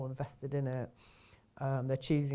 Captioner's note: inhales